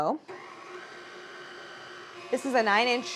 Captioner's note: mixer humming